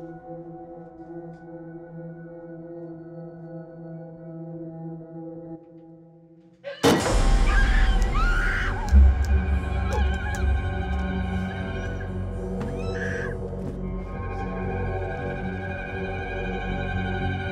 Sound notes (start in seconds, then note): 6.7 suspenseful music; 7.4 woman screaming; 14.3 suspenseful music